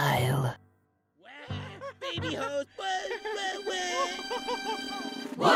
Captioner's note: balloon chuckles